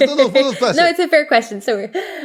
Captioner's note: laugh